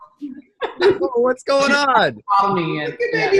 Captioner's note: laughter